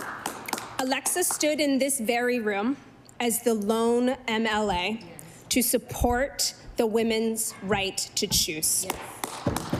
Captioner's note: applause